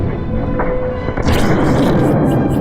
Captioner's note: cannon firing